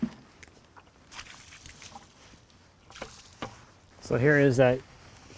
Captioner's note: splashing